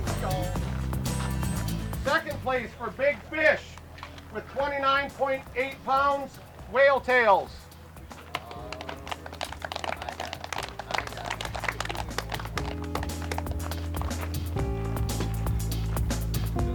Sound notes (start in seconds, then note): 8.2 clapping